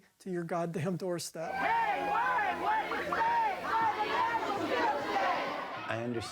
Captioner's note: people clamoring